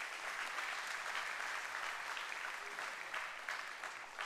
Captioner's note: applause